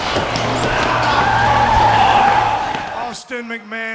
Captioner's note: tires screeching